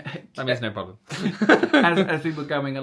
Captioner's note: laughing